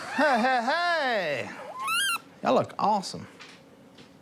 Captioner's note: blows duck call